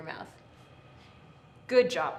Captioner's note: exhales softly